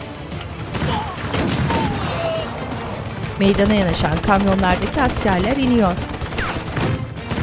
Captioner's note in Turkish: Silah sesleri